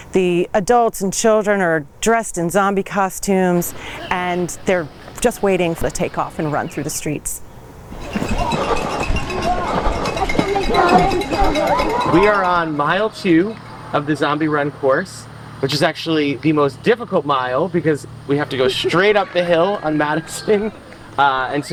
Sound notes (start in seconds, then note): 8.0 cowbell clattering